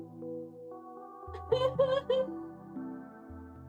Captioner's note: fake crying